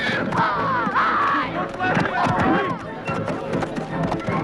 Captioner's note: Hundra shouting